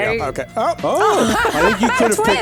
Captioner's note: laughs